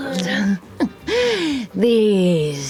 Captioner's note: snickers